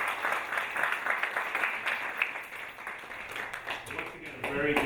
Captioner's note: audience applauding